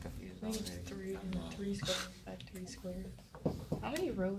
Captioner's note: students murmur